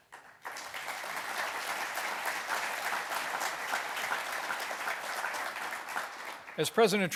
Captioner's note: applause